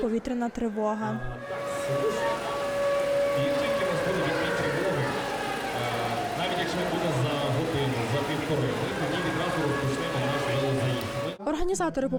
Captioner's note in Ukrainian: Лунає повітряна тривога